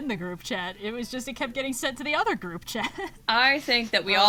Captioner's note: laughs